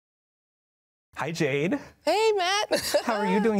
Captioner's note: laughs